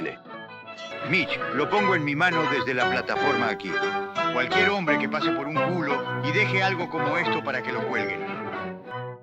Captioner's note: windy swears very angry